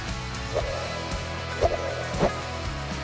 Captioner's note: swiping sound